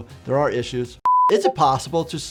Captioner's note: beeps